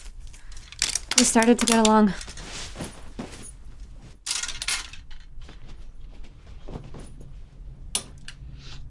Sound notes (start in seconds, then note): 4.1 hangers rattling